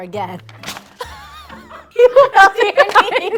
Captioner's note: laughing